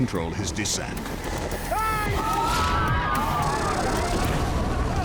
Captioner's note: people screaming